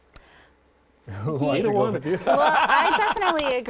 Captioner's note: group laughing